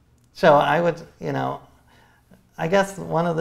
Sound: none

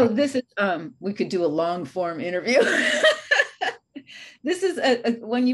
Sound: laughs

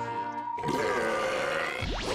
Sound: belching

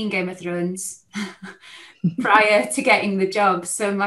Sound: both chuckle

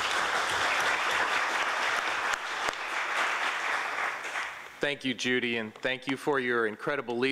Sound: applause

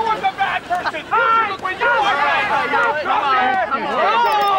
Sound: speaking foreign language

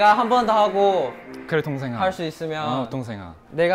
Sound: confident

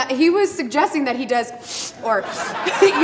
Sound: sniffles

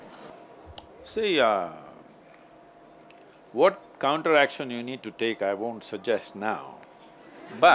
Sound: few laughs

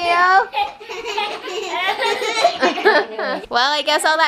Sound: laughing

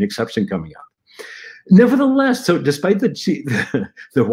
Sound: laughter

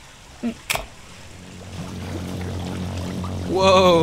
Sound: loud electrical humming

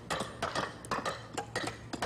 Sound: hammering

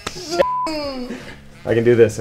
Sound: beep

